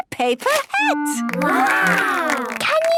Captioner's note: clapping